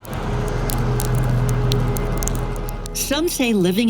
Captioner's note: rain drops